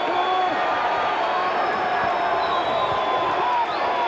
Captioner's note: crowd cheers